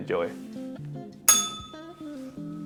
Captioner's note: bell rings